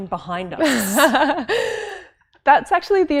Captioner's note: laughs